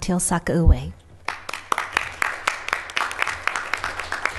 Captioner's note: applause